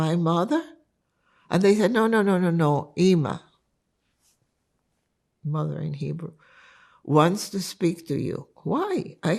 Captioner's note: hebrew